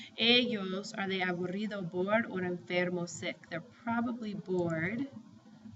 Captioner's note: spanish